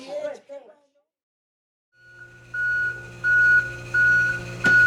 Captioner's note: machine beeping